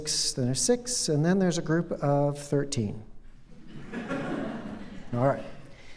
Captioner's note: laughter